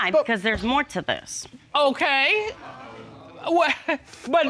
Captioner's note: chuckles